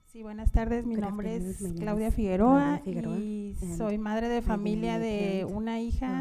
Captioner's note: panelist speaking in Spanish